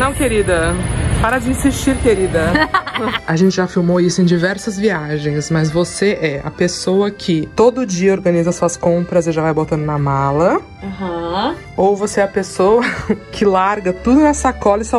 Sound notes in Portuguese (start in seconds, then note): 2.5 risos